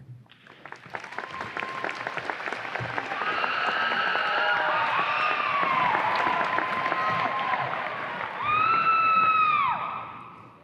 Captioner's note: audience applause and cheers